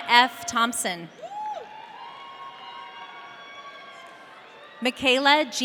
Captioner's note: audience cheering